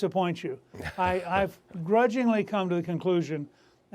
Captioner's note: laughter